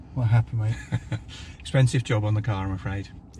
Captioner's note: laughs